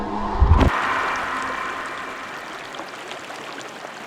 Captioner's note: water running